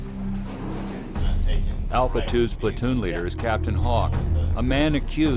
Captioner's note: voiceover